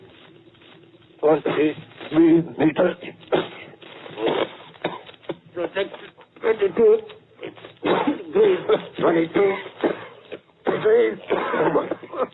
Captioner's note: coughs